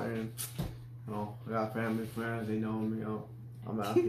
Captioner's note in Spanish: Risas